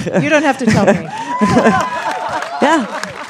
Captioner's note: crowd cheering & applause